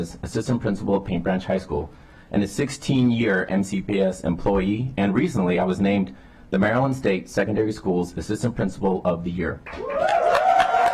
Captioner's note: applause